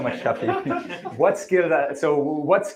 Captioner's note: laughter